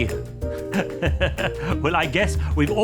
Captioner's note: laughing